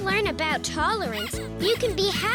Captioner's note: squeaking sound